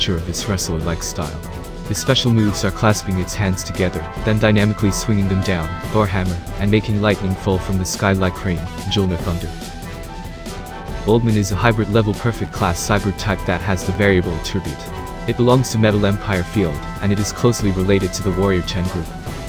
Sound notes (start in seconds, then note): 8.7 Mjölnir Thunder